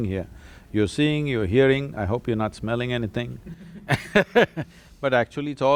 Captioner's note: laughter